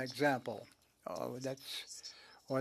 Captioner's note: speaking French